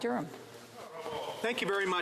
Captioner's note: speaking French